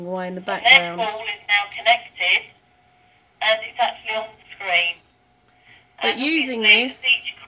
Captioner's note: recording plays on loud speaker